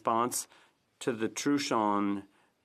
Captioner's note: speaking French